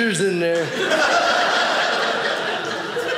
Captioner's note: audience laughing